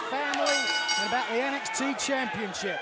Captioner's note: bell ringing